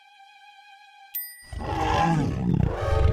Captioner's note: ping noise; growl; waking grunt